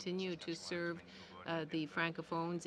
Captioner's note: speaking french